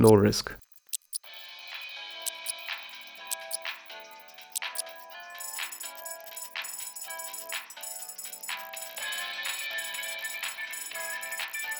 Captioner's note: fastforward noise